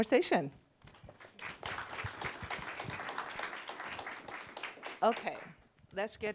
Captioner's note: applause